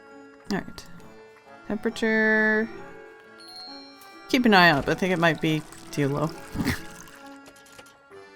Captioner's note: snorts